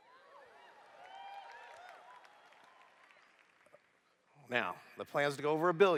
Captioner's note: applause